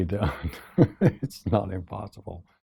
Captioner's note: laugh